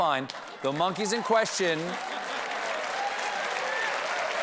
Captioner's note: laughter